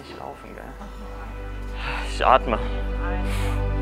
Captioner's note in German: seufzt